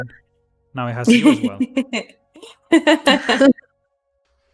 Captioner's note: laughs